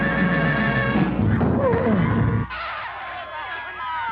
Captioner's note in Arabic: تئن المرأة; الحشد يصرخ بشكل غير واضح